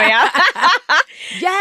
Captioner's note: laughing